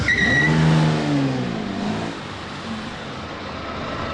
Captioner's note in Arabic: هدير المحرك; اصوات صرير الاطارات